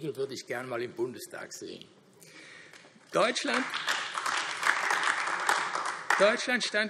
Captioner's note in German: Heiterkeit und Beifall AfD